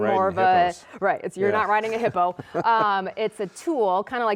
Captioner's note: laughing